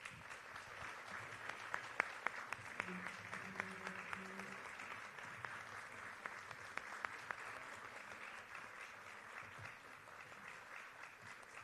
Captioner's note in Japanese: 拍手